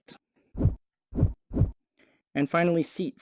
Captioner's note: whoosh